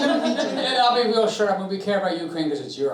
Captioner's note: all chuckling